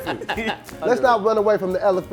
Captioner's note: laughing